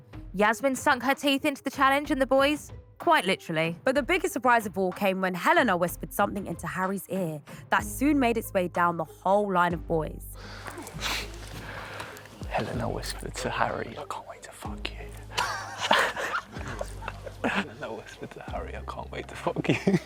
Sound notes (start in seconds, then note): 15.2 laughs